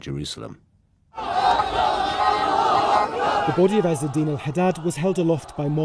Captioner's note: crowd chanting